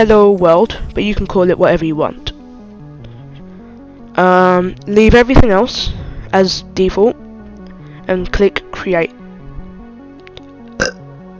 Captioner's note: burp